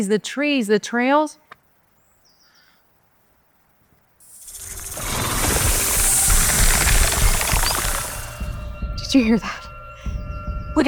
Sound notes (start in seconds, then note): 4.2 snake hisses; 4.2 snake rattles